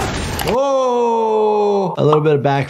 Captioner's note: Invincible grunting; echoing